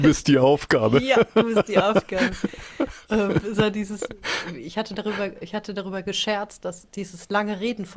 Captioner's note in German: gelächter